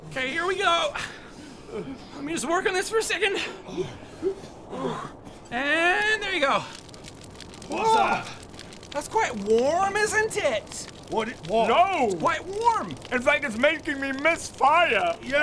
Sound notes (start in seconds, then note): 3.6 cold noises; 6.8 cracking fire sounds